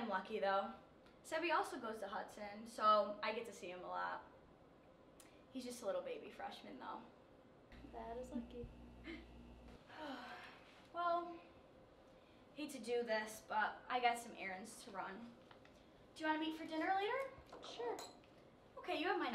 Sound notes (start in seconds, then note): 9.8 sigh